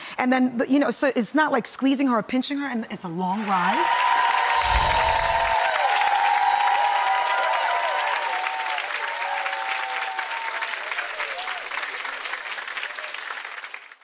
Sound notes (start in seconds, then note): 4.1 audience cheering